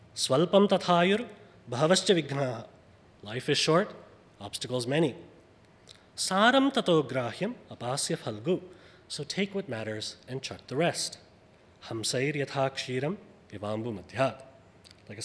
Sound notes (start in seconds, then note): 0.0 speaks foreign language; 6.1 speaks foreign language; 11.5 speaks foreign language